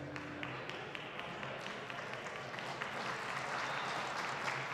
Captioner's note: attendees applauding